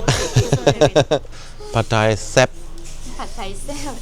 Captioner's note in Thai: เสียงหัวเราะ